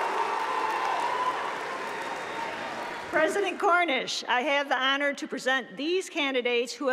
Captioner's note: applause